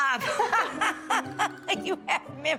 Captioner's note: laughing